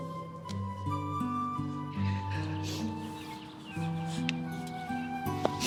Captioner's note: sniffles